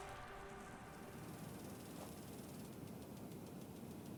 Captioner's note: sprinklers spraying